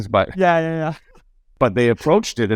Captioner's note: laughs